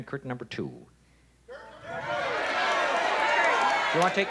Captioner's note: shouting